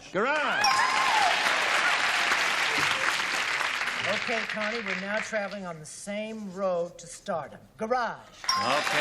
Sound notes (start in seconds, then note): 1.1 pinging